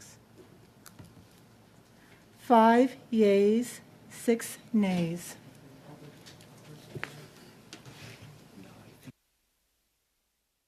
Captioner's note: speaking French